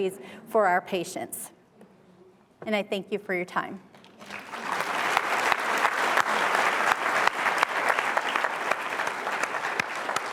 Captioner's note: applause